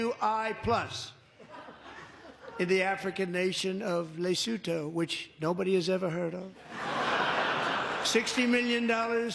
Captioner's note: laughter